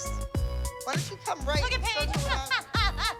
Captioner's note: laughs